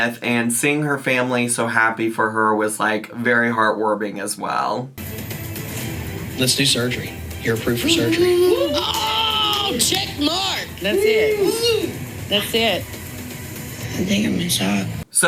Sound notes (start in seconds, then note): 6.3 dramatic music; 8.3 all cheering and clapping